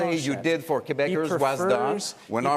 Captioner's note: speaking French